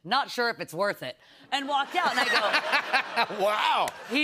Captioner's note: laughter